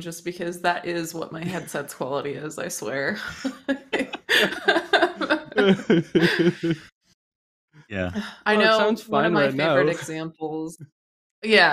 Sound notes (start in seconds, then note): 3.0 laughter